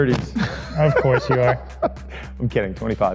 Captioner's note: laughing